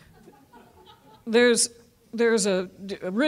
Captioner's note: audience laughing